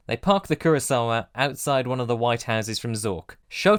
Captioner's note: none